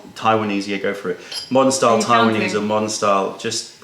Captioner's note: Taiwanese; pouring